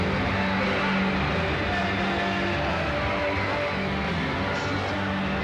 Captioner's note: hysterical screaming